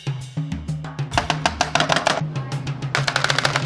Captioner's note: tapping